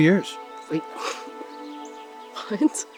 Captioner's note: chuckles